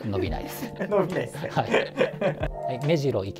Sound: laughing

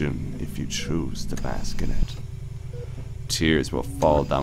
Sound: mechanical ambiance

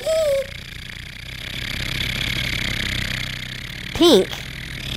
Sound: road roller motor

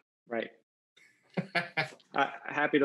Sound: laughs

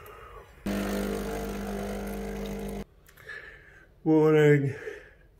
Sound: coffee machine buzzing

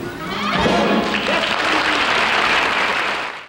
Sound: audience applauding

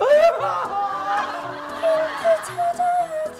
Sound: groaning in fear

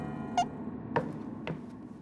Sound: audio squeaks; footsteps pattering

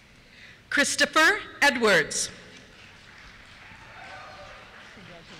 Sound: cheers

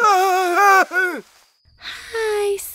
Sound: David startled

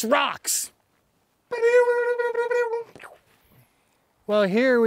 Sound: makes rock guitar sound effect

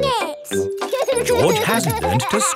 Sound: george laughing

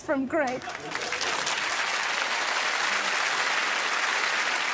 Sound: crowd applauds

